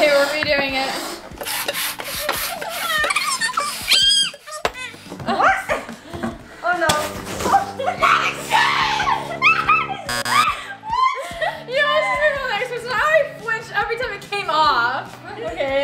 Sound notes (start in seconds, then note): 10.0 buzzer; 10.9 screaming